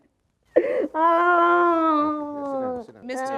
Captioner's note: sobbing